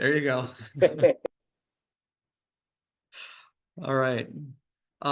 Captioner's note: both laugh